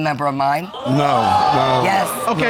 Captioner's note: audience gasps